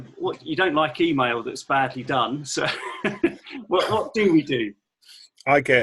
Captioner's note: laughing